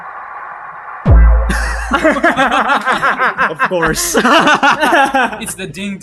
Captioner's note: laughs